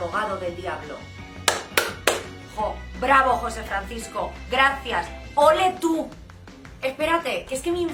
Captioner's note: slow clap